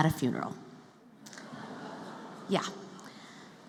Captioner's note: laughter